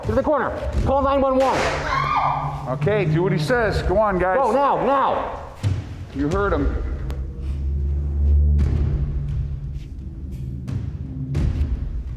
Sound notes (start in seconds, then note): 1.4 gun fires; 1.7 woman shouts